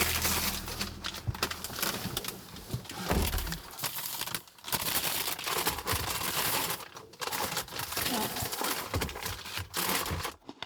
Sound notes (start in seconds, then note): 1.9 paper rustling